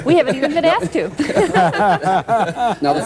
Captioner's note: laughter